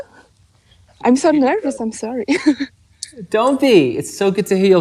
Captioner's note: chuckles